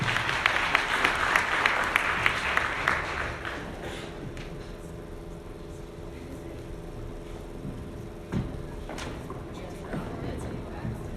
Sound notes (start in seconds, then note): 0.0 audience clapping; 6.4 faint chattering